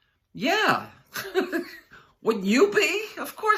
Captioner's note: laughing